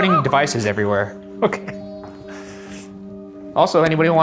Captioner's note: laughing